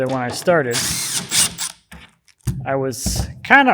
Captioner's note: electric screwdriver whirs